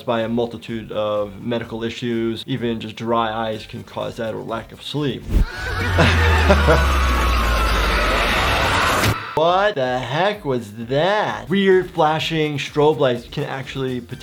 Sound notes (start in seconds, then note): 5.3 laughing